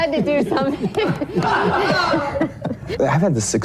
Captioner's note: laughing